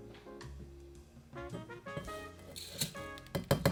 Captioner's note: lentils dropping